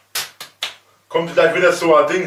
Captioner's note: slap; slap x2